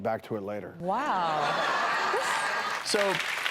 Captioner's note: laughter